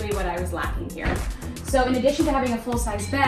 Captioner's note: bed clicks